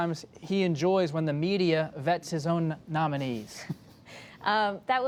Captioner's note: laughter